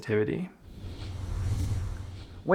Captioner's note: whooshing